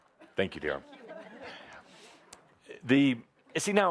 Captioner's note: laughing